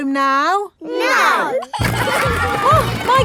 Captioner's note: giggling